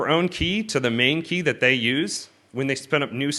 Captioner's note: none